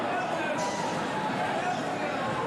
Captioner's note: fans chanting